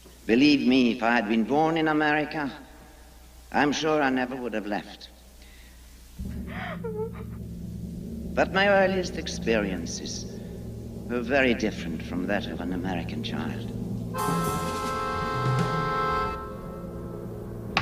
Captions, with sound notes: - Believe me, if I had been born in America, I'm sure I never would have left. (woman whimpering) But my earliest experiences were very different from that of an American child. (dramatic horn music)